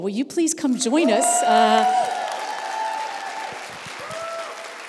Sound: applause

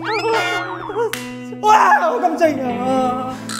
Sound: shouting to the end

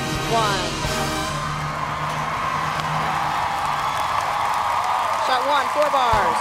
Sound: distant set crowd cheering

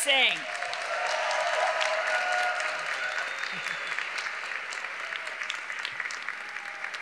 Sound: graduates applauding; graduates cheering

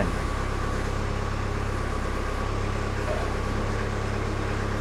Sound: motor purrs

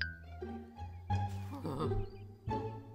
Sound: sigh

